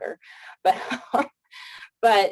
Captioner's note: chuckles